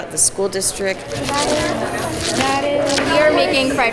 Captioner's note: cutting